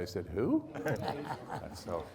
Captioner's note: laughing